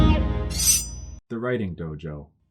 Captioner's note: sword being unsheathed